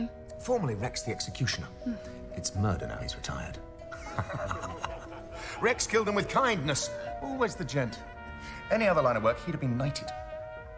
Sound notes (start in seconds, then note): 3.9 laughs